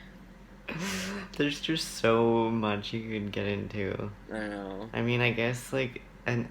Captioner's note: laughs